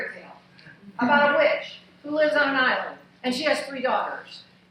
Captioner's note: laughing